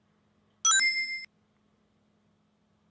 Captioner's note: ding noise